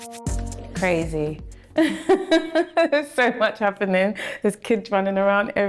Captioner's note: laughs